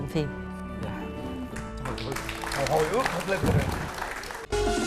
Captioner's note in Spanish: aplauso